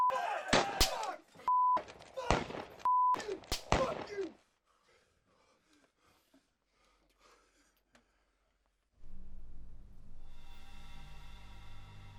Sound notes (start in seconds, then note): 0.2 gun fires repeatedly; 9.0 ominous music